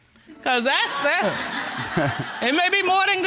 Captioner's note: audience chuckling; chuckling